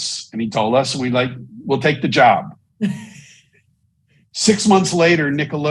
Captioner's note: chuckles